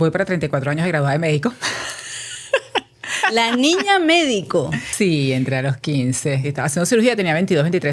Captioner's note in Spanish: risas